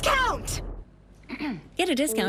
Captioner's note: clearing throat